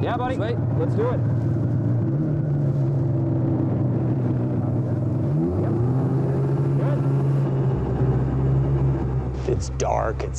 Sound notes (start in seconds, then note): 7.1 motor revving